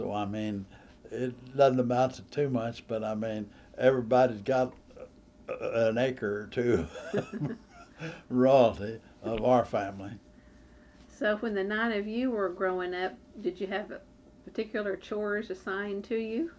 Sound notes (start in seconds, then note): 10.2 laughs